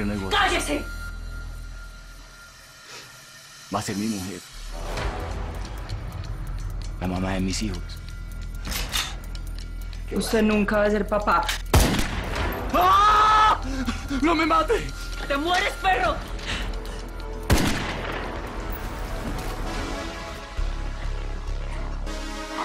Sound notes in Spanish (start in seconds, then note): 9.9 Sonido al enristrar; 11.7 Disparo; 12.7 Grito; 17.5 Disparo